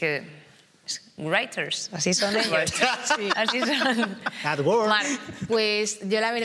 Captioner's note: laughs